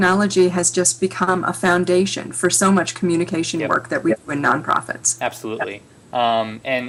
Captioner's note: audio error